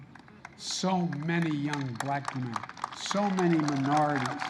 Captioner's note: applause